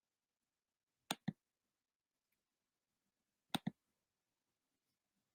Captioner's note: computer keys clicking